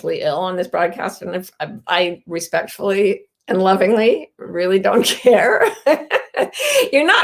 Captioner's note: laughs